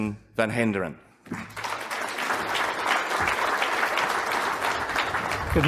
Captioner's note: audience applauds